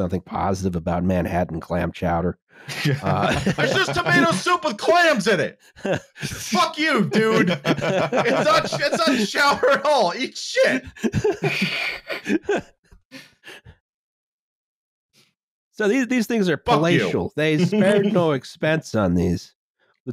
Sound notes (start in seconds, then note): 5.5 laughter; 12.2 laughter; 17.5 laughs